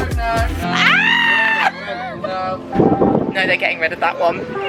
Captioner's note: screaming